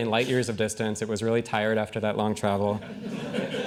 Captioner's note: laughing